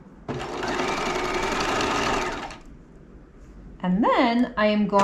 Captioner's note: sewing machine whirling